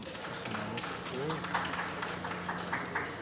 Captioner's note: applause